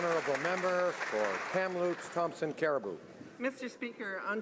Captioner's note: some Applause